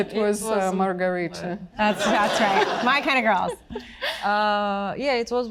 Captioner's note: audience laughing